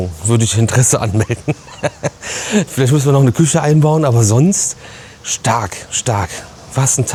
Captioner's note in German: gelächter